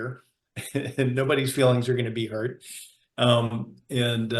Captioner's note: chuckling